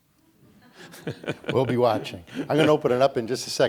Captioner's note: laughs